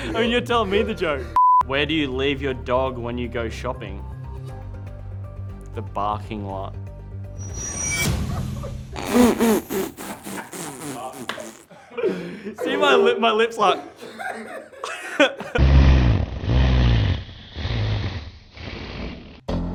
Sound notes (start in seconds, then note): 1.4 beep; 7.3 whooshing sound; 8.2 both laughing; 13.7 both laugh; 15.5 laughing in slow motion; 19.5 adventurous music